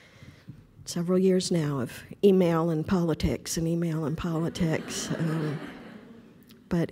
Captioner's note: audience laughter